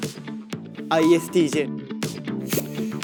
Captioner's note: boldly